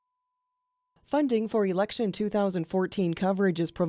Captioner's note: voiceover